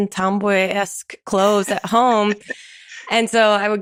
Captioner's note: chuckles